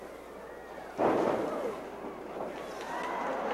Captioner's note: mat thuds; crowd cheering